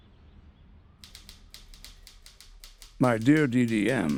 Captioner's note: typewriter keys clicking